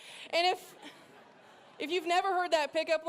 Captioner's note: laughter